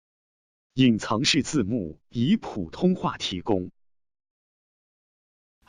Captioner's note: man speaking foreign language